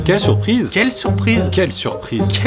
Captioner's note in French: Monotone